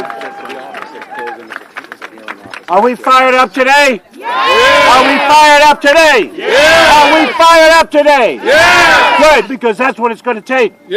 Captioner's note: cheering